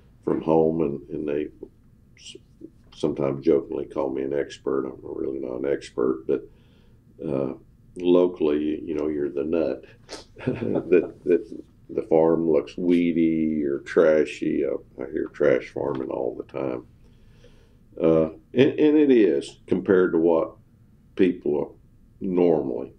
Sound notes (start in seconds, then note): 10.2 laughter